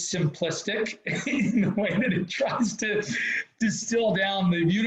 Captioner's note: laughs